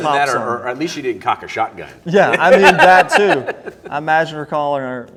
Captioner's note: laughter